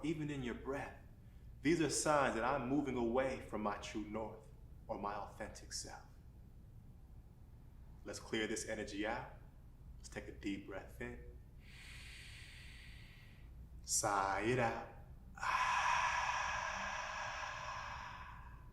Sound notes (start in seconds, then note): 11.6 inward breath; 15.3 outward breath